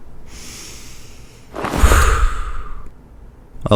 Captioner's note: sigh